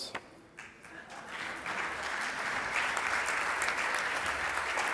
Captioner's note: audience applauds